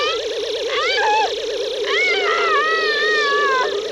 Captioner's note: wailing